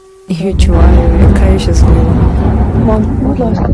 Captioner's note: explosions